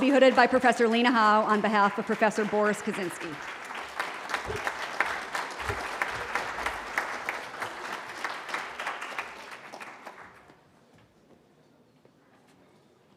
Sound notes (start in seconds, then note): 3.6 applause